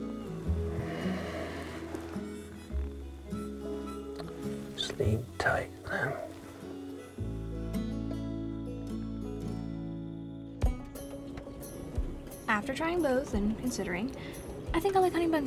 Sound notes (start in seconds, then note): 0.4 sighs